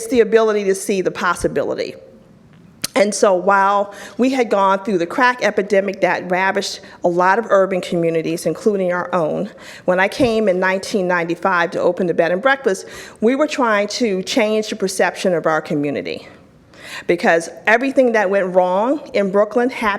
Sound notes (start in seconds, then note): none